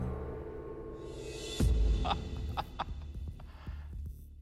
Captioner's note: chuckles